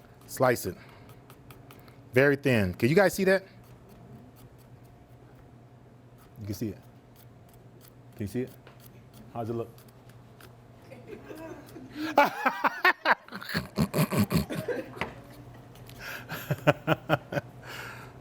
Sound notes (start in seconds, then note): 10.9 crowd laughs; 14.8 laughs